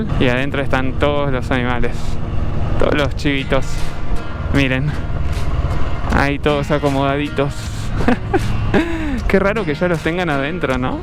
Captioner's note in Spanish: risas